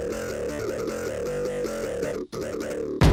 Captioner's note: laughing